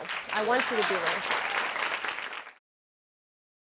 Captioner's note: audience applauding